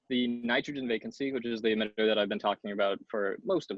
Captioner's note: audio glitch